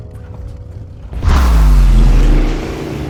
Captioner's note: vrooooooooom!